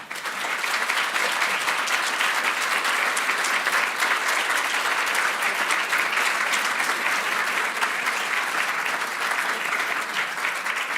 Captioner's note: applause